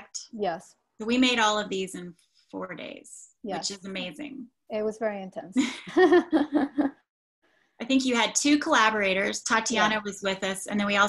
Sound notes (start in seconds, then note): 5.6 laughs